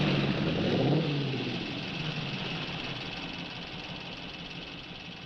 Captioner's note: engines idling